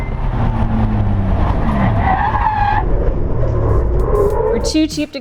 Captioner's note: tires squealing